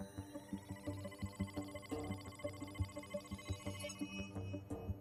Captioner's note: tense music continues; tech beeping